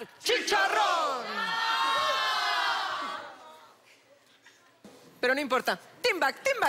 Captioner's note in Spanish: Exclamaciones